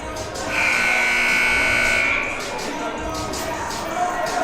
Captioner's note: buzzer blares